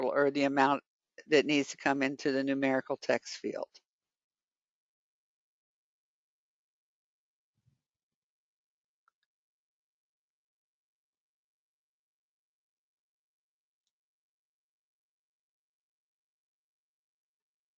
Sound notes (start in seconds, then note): 4.7 14 seconds pause